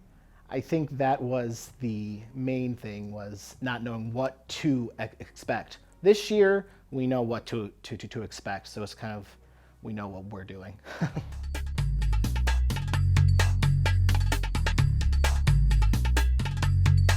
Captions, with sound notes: I think that was the main thing was not knowing what to expect. This year, we know what to expect so it's kind of we know what we're doing (laughs). (percussion music)